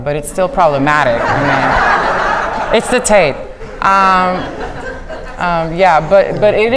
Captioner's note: audience laughing